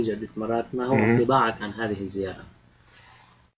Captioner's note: speaking Arabic